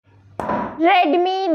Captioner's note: bang sound